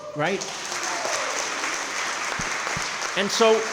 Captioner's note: crowd clapping & cheering